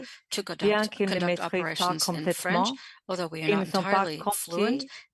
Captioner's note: speaking French